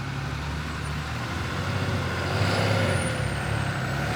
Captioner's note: engine revving